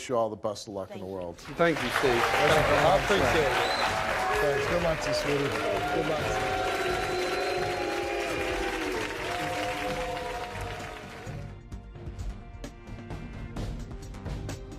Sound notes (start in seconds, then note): 8.0 audience cheering; 11.9 intense music